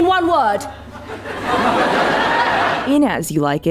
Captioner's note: audience laughter